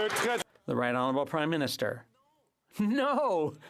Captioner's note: some Applause